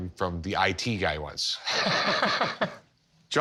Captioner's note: both chuckle